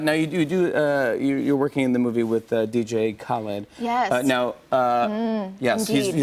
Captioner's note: none